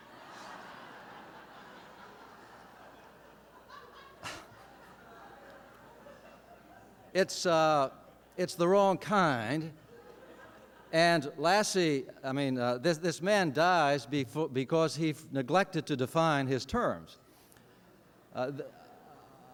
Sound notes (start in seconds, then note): 0.0 laughter